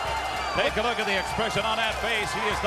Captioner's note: crowd chatter